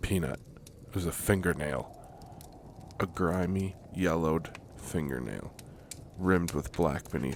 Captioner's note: horror Noise